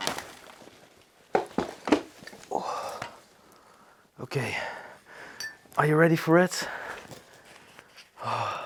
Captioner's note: sigh